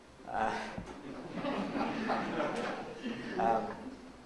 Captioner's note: audience laughs